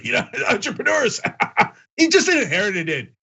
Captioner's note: laugh